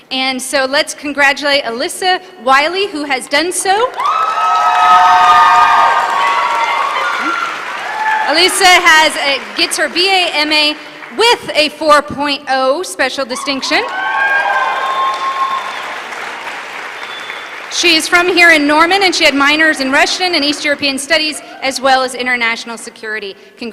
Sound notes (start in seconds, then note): 3.9 applause; 13.9 applause